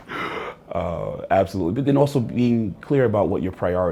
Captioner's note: laughs